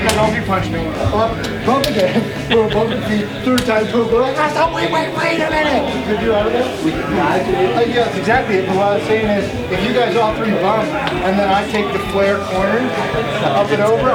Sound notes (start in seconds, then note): 1.8 fist slapping